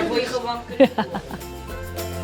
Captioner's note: laughs; bright music